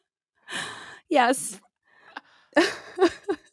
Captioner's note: laughing